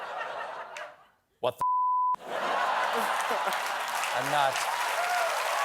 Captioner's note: laughter